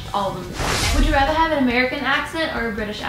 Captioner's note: rush of air